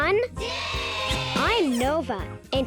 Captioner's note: crowd